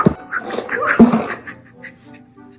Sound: thump

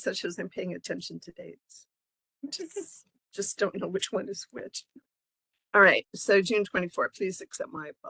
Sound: laughing

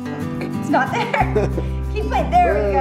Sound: laughs

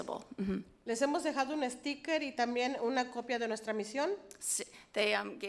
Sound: speaks foreign language

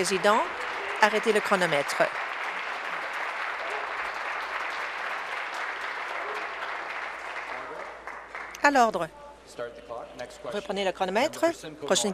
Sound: applause

